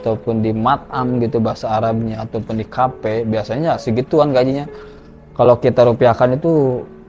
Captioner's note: in Arabic